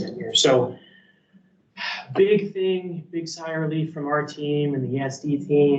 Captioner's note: sighs